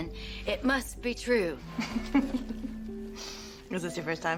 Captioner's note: laughs